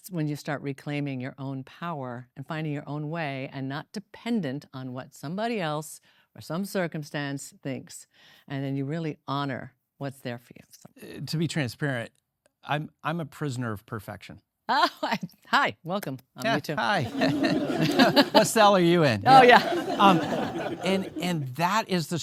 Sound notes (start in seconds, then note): 16.9 laughs; 19.2 audience laughing